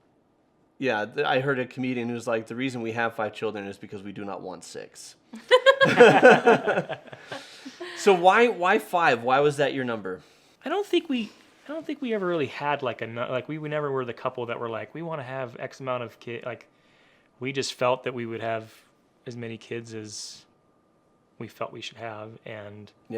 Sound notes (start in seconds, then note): 5.4 laughing